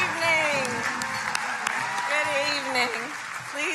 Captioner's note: crowd cheering